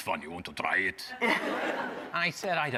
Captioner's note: audience laughing